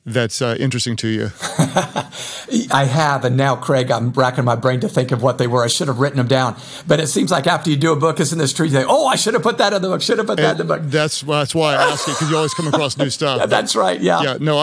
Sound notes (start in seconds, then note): 1.3 laughs